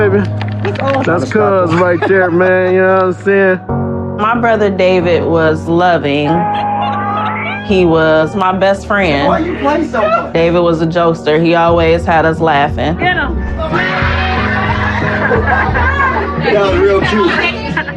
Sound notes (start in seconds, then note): 6.2 laughghs; 14.7 laLaughter